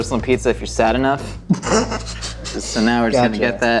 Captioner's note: laughs